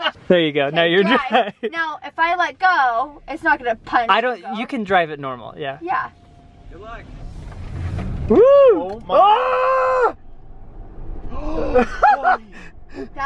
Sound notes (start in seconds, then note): 0.0 laughing; 8.7 yelling; 11.6 laughing